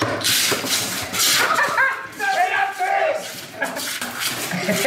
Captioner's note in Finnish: Naurua. Huutoa